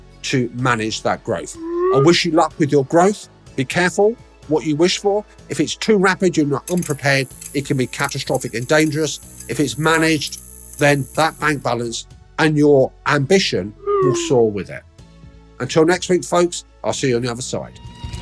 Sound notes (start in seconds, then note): 1.5 text whooshing; 6.8 machine hissing; 13.8 text whooshing